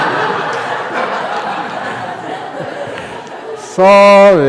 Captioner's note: laughter